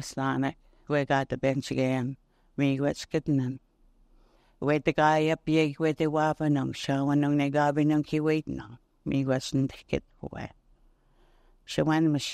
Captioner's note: speaking Indigenous language